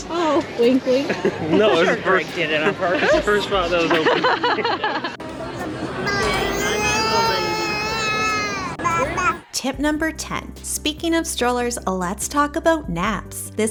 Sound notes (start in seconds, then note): 9.6 baby sounds